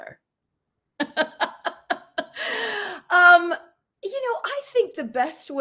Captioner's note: giggling